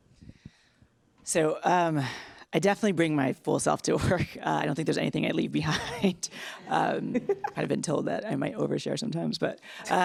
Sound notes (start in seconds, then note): 6.8 laughs loudly